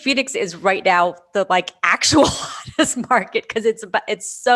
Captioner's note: laughs